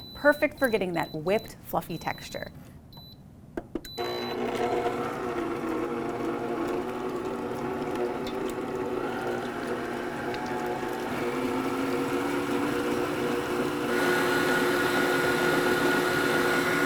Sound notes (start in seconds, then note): 2.7 mixer beeping; 4.9 mixer whirring